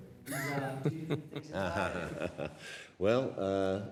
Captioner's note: laughter